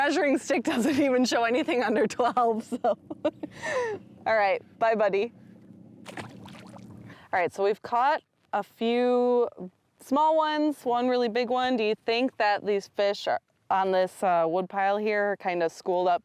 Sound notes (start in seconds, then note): 1.7 laughs; 5.3 water splashes